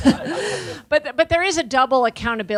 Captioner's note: audience laughing